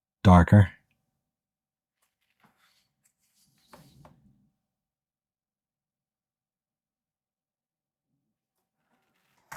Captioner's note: silence